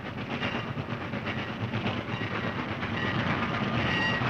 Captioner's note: bell dinging